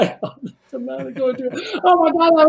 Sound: sobbing

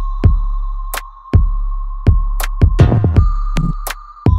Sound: Esi continues in English

